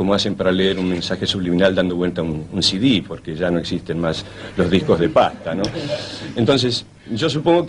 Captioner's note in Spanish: risas